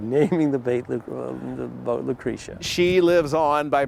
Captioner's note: stutters